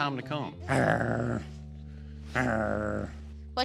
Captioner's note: growling playfully